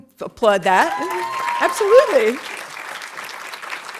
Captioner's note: audience applauding